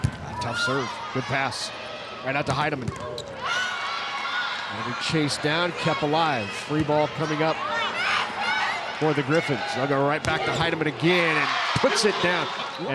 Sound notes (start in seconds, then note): 3.7 audience cheering